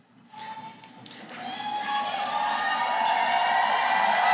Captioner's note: cheering